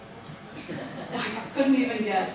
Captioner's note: audience laughing